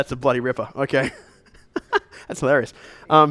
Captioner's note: chuckles